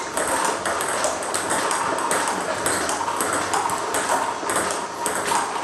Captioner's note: ball ping pong hitting continues